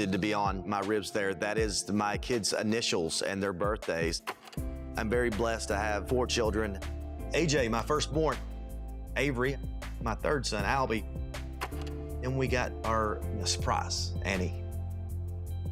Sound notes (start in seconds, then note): 4.9 film reel clicks; 11.6 film reel clicks